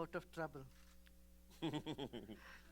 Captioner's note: laughter